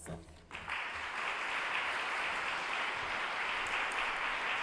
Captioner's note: audience applauding